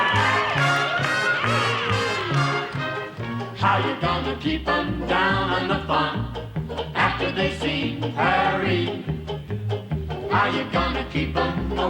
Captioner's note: cheers and applause